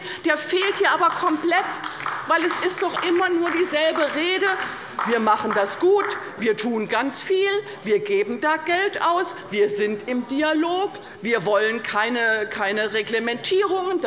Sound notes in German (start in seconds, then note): 0.4 Beifall bei der LINKEN und bei Abgeordneten der SPD